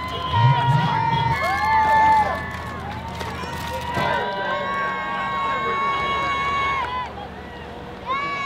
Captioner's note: cheering crowd